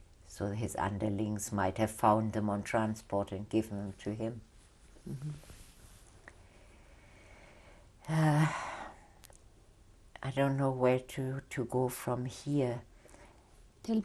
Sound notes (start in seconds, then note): 4.3 pauses for 3 seconds; 8.1 sighs